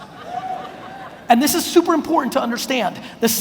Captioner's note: audience laughs